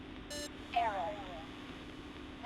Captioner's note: automated Voice